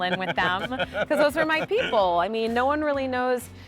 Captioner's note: laughing